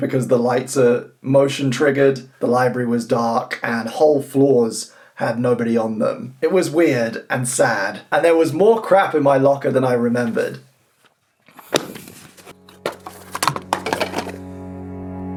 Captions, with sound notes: because the lights are motion-triggered. The library was dark, and whole floors had nobody on them. It was weird and sad and there was more crap in my locker than I remembered. (items falling)